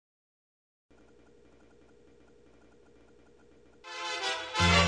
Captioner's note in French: crépitements "film vintage"